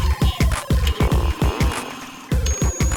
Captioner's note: BB-9E sounds